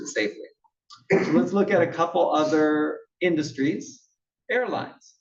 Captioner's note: cough